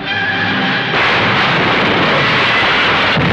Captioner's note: crashing; explosion